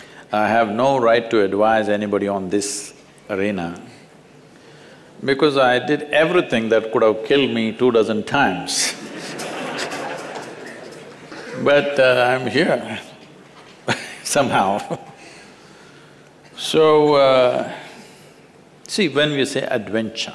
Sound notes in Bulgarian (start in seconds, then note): 8.8 Смее се